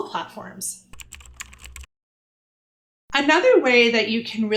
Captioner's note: typing